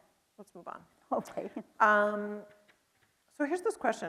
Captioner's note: chuckles